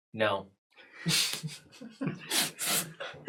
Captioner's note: all laugh